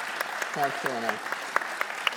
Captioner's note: audience clapping